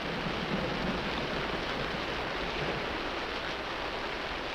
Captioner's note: rain pattering